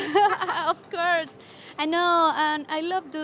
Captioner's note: laughing